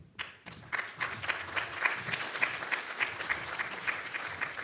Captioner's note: audience clapping